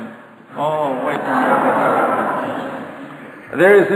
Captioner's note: audience laughter